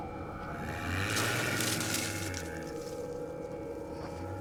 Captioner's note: growling, rustling